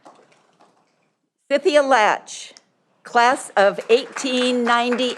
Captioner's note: audience applauding